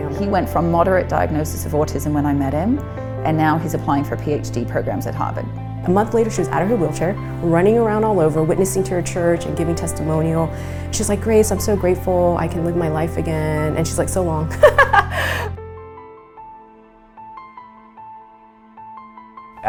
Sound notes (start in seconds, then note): 14.6 laughs